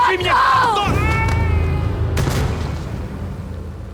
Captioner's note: minnikov screams